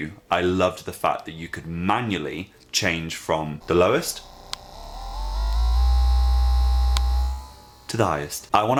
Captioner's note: slow buzz